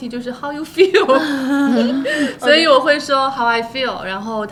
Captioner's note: laughter